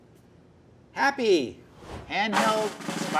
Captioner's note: whooshing; drumming